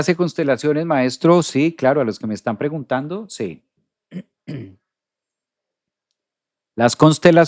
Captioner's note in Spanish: carraspeo